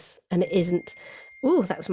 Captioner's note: phone beeps